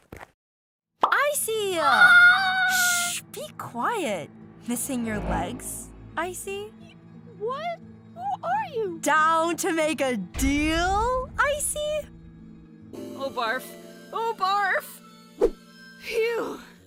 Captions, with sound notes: Icy! [ICE CUBE CRIES] Shhhh! Be quiet! Missing your legs, Icy? Y- What? Who are you? Down to make a deal, Icy? Oh, barf. OH, BARF! Phew!